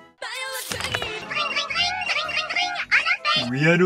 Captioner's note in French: sonnerie chiante